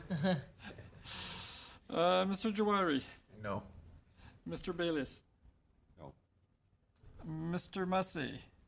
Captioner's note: laughing